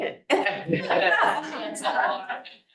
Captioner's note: attendees laughing